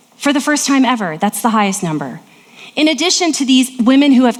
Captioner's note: none